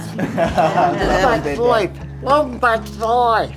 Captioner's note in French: rires du groupe